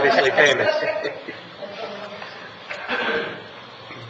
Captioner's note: laughing